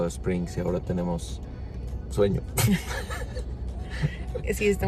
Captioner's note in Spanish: risas